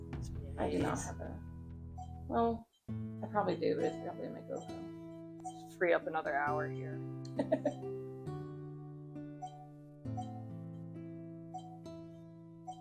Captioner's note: beep interlude